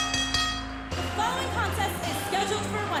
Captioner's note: bell ringing